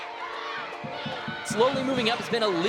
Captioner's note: crowd cheering